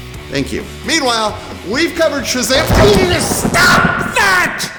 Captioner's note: thunder